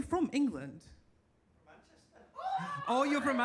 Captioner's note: audience cheers